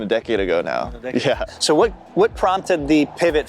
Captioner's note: chuckling